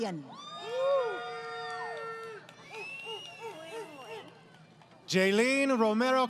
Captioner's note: crowd Cheering